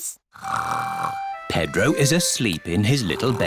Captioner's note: snores